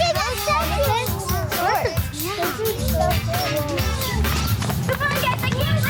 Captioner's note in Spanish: niños parloteando